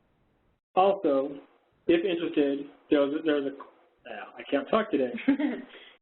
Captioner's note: stutters